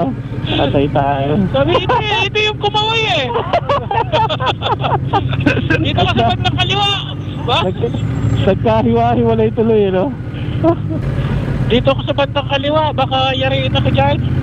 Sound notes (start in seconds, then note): 3.4 group laughing